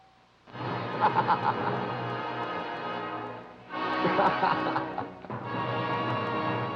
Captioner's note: dramatic orchestra music; Danny laughing